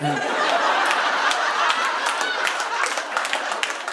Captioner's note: audience laughing